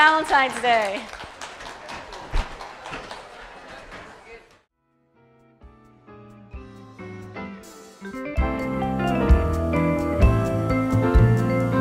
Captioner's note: applause and music